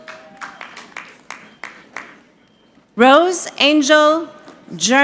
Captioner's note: audience clapping